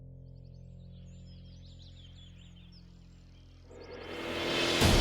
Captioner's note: birds chirping